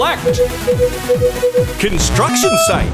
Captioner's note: beeping